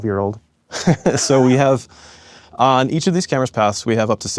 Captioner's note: laughs